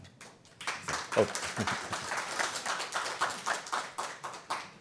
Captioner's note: applause